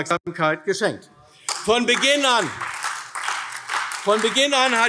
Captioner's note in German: Beifall AfD